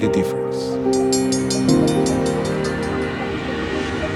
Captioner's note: bell rings